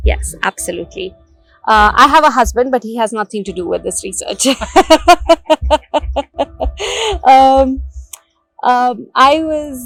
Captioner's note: laughing